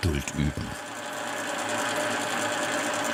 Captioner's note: loud machine rattling